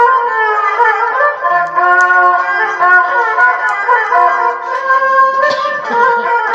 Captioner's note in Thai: เสียงหัวเราะ